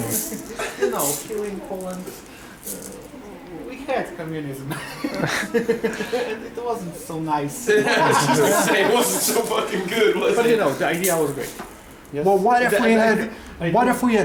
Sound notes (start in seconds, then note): 10.3 śmiech